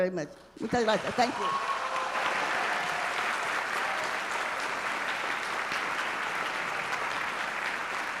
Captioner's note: speaking Spanish